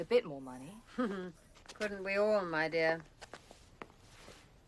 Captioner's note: chuckles